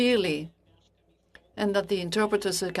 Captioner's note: speaking French